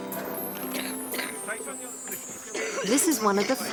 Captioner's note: coughing